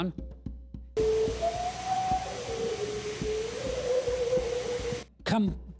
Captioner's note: howl with pitch changes and tremolo